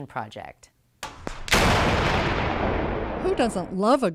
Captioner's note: explosion